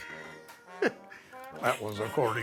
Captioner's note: laughs